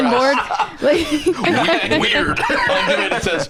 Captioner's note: laughs